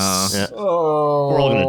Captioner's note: moans mournfully